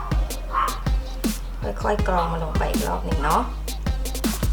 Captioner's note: grinding